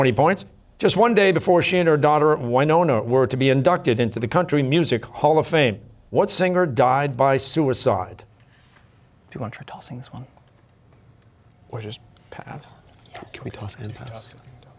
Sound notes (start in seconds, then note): 9.3 whispering